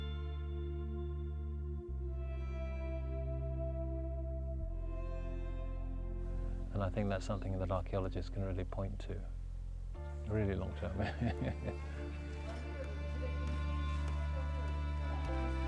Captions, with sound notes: And I think that's something that archeologists can really point to. Really long term. (laughing)